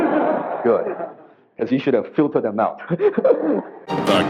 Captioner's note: audience laughs; laughs